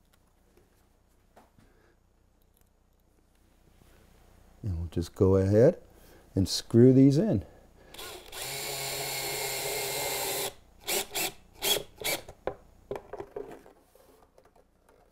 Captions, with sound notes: No, just go ahead and screw these in. [SCREW GUN]